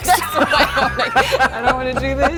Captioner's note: laughter